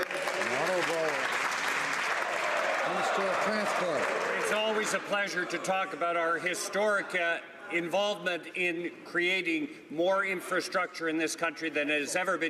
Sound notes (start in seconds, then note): 3.8 some Applause